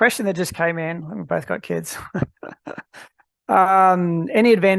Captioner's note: laughs